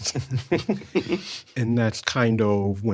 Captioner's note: all chuckling